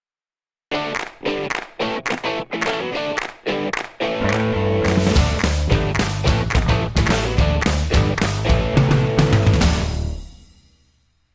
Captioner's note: claps